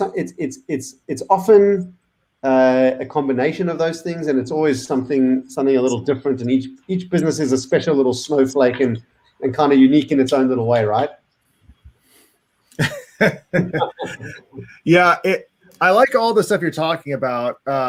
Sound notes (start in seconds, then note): 12.8 giggling